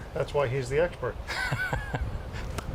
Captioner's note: laughing